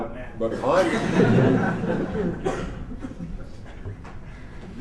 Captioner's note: laughter